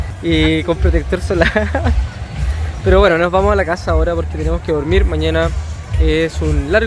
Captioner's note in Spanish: risas